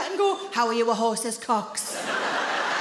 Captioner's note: in a deep voice